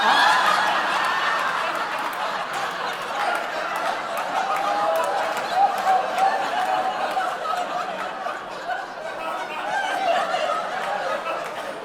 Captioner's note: audience laughter